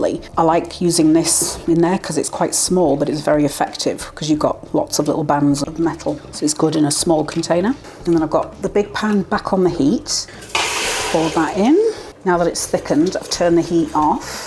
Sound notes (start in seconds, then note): 10.2 sizzle